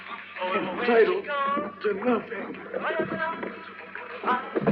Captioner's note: straining